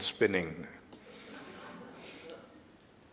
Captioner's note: audience Laughter